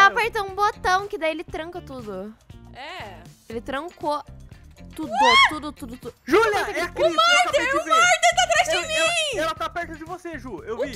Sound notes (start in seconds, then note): 5.1 screams